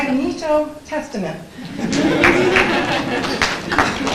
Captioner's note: laughter; applause